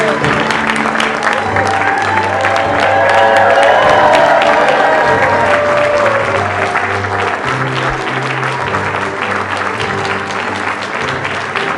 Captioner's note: applause